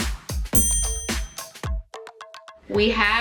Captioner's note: sharp chime noise